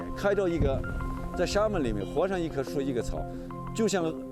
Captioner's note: speaking chinese